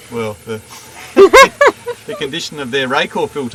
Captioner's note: laughing